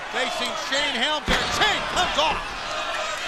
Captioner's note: crowd cheering